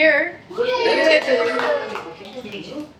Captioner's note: cheering